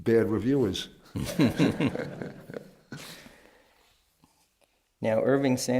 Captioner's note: laughter